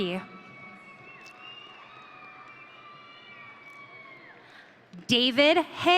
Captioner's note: audience cheering